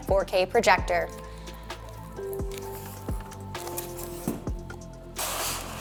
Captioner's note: bright music; box rustling; styrofoam rustling